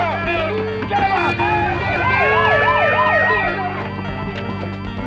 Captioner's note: siren